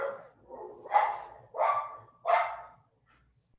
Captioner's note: dog barking